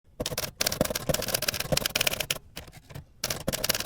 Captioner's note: typewriter clicking